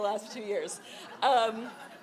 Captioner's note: audience laughing